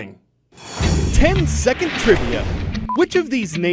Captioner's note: voice-over